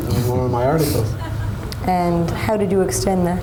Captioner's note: audience laughs